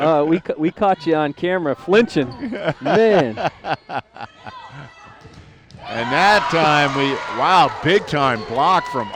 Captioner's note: laughter